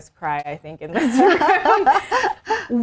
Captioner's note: women laughing